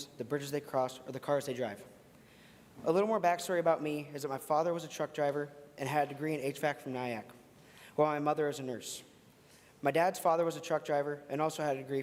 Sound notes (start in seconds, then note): none